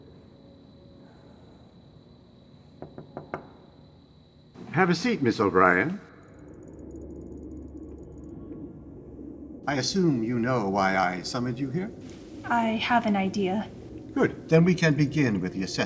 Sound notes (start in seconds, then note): 2.8 knocking